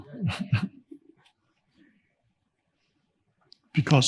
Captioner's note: chuckling